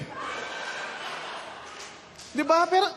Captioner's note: laughter